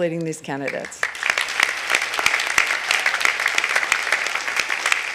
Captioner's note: audience applauding